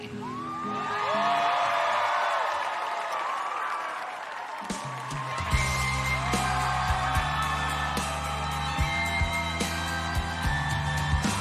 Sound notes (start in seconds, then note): 7.6 cheers and applause